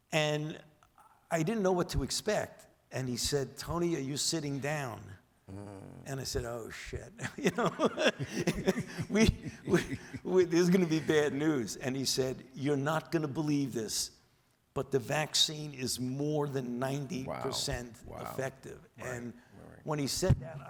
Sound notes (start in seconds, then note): 7.2 Dr. Fauci laughs